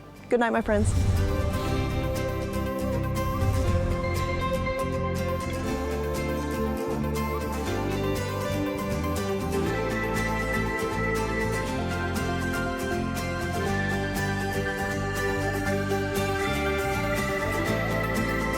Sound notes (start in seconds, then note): 0.6 wind whooshing; 2.2 upbeat music